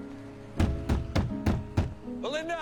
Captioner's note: pounding